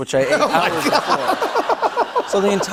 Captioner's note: laughter